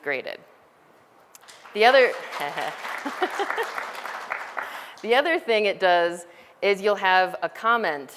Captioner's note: background audience applause sounds; laughter